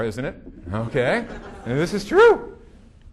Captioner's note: audience laughing